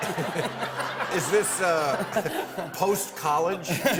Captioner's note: laughs